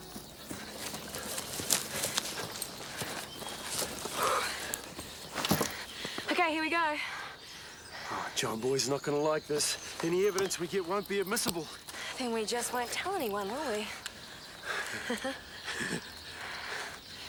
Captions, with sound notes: (Jodie sighs) - Okay, here we go. - Oh, John Boy's not gonna like this. Any evidence we get won't be admissible. - Then we just won't tell anyone, will we? (laughing)